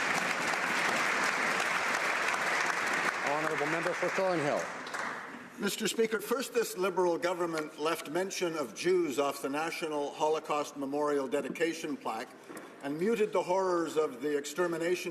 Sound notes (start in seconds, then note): 0.0 some Applause